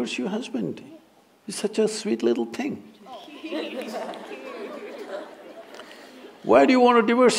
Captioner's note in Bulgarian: смехове